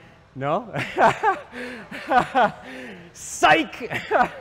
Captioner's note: laughs